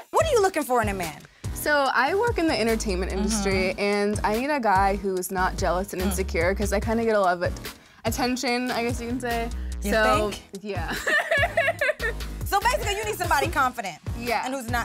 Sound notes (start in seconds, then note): 10.9 laughs